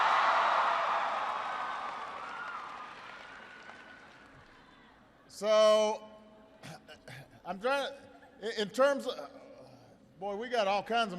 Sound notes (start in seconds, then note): 4.5 applause